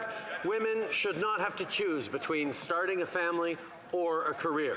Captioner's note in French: voix de l'interprète